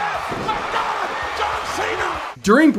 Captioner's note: body thuds